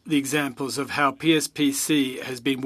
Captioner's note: speaking French